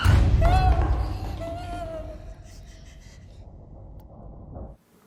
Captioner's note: whimpers